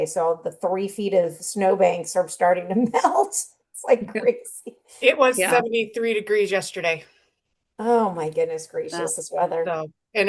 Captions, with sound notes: So, the three feet of snow banks are starting to melt (laughs). It's like crazy. - It was 73 degrees yesterday. - Oh my goodness gracious. This weather. - Yeah, so.